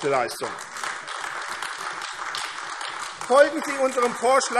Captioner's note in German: Beifall AfD